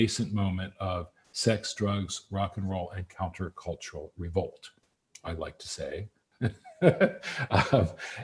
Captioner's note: laughs